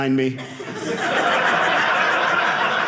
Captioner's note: audience laughing